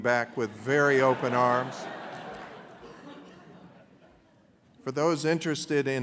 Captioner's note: laughter